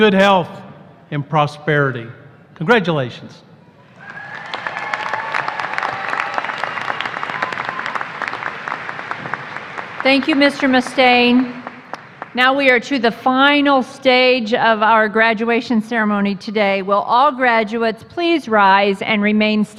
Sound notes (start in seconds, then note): 3.8 applause